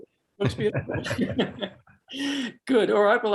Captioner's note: both laugh